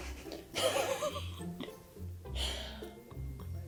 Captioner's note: laughs